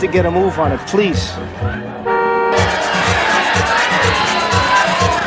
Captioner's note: car horn honking